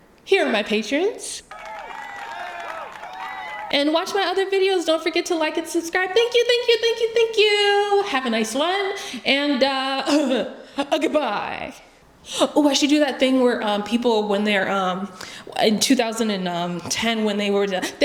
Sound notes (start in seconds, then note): 1.4 applause for the patrons <3